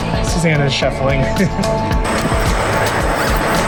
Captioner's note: laughing; gentle music